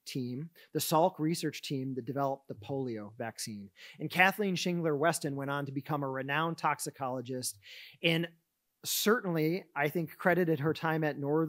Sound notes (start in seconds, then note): none